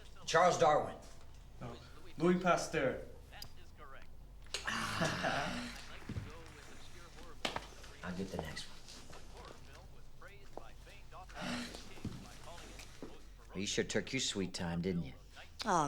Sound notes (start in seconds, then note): 4.6 Clive groans; 4.8 Nicky laughs